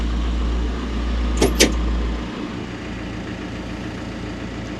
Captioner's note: engine humming